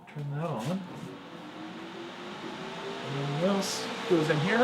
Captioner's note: engine droning